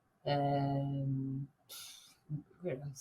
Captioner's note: sighs